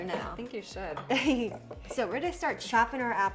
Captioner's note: chuckling